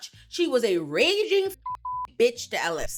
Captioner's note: beep